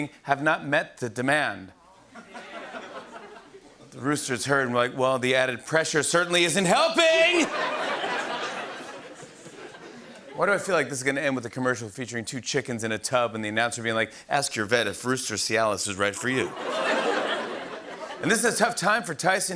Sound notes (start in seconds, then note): 1.9 audience murmuring; 7.4 laughter; 16.4 laughter